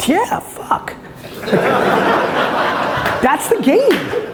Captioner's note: audience laughs